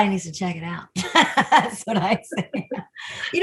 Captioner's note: laughs